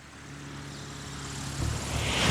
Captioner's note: plane whirs